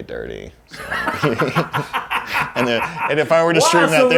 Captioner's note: both laugh